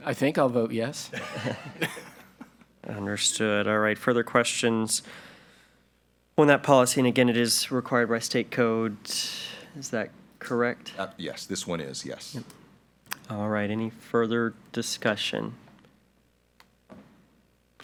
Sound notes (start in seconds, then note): 1.1 group laughing